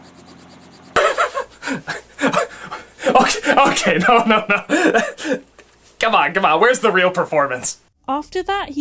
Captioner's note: chuckles